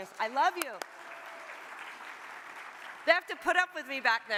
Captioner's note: audience applauds